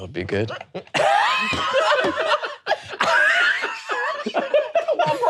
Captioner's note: all laughing